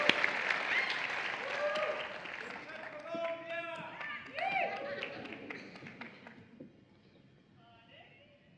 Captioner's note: cheering and Applause